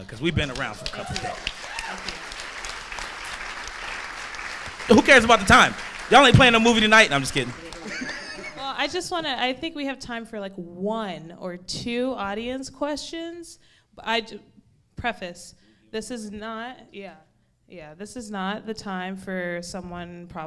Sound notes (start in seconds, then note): 1.9 audience clapping